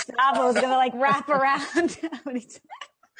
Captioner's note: laughs